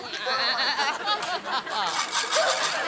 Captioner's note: audience laughing; Morgan laughs